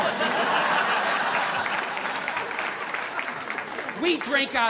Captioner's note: audience laughing; audience applauding